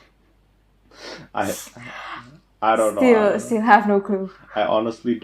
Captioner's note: wheeze